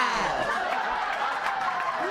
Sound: applause, laughter, and cheering

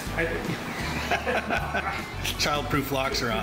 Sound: chuckles

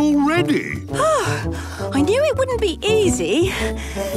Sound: panting

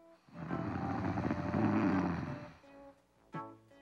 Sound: snoring

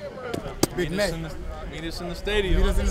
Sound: tapping

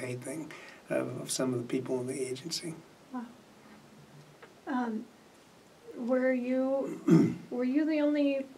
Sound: clears throat

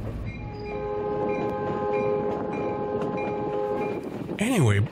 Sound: train horn

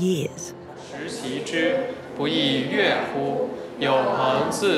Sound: class speaking Chinese

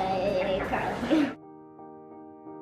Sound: chuckles; light music

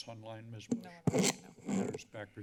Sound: mic crackling

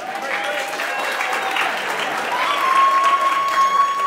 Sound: clapping and cheering

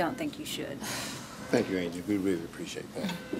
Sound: sighs

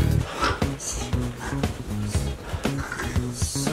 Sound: snores

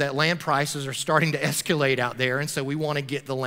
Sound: chuckling

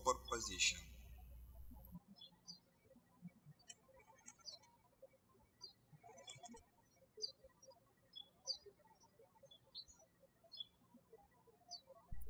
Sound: birds chirping

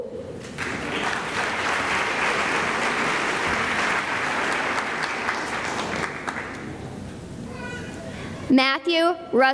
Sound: applause

